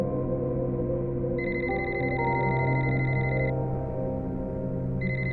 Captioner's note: phone ringing